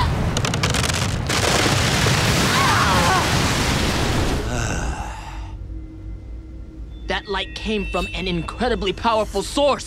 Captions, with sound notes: [groaning] [sighing] That light came from an incredibly powerful source.